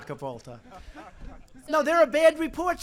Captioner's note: laughter